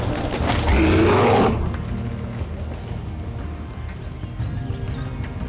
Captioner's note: machine growling; upbeat tribal music